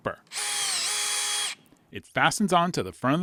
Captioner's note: tool whirring